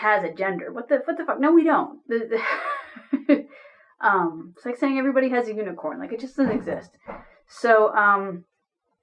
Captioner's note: laughter